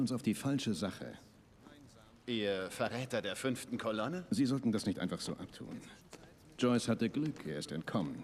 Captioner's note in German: none